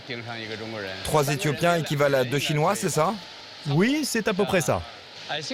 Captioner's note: employee speaking foreign language